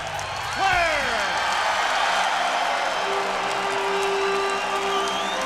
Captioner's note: crowd cheering